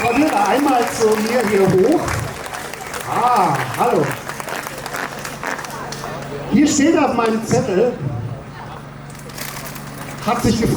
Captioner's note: applause